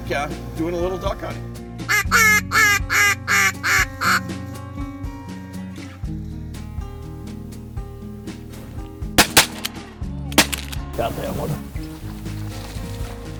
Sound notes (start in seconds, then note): 1.8 imitates duck call; 9.2 gun fires